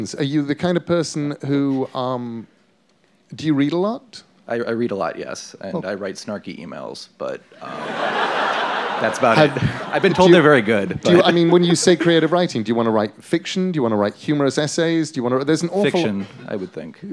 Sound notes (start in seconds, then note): 7.6 laughter